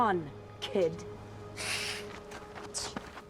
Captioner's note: hisses